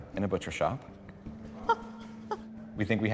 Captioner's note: laughing